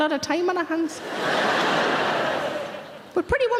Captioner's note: audience laughing